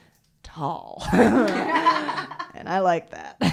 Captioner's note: laughter